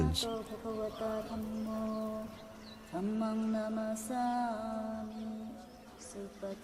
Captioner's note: chanting in foreign language